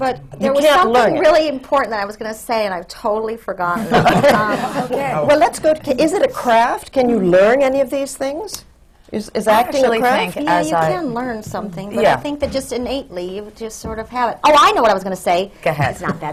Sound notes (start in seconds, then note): 3.8 laughter